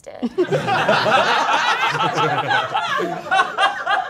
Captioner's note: all laughing